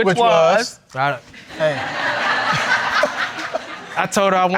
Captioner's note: all laughing